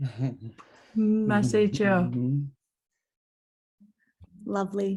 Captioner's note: indigenous speech